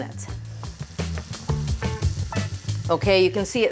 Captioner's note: sugar simmering